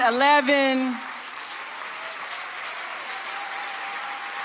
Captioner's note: audience applauding